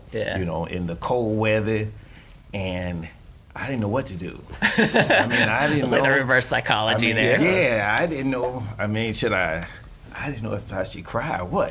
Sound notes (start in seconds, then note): 4.6 laughing